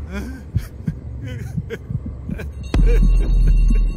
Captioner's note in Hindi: रोना